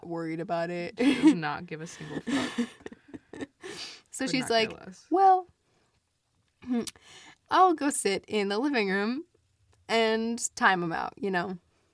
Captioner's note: laughs